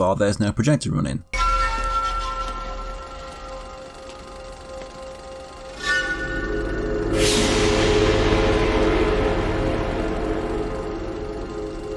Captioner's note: in-game audio